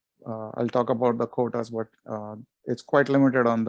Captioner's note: murmurs